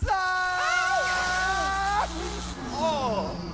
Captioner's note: electricity buzzing; electricity winding down